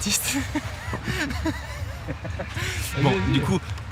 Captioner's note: laughing